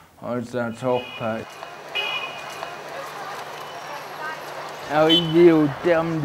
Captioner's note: street noises